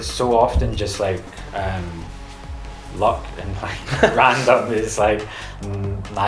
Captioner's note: both laugh